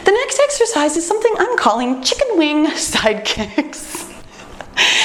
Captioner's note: laughs